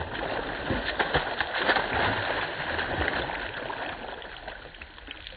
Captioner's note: water splashes